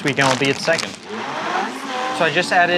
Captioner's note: mixer whirring